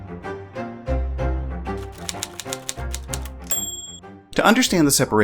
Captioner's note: music and typing noise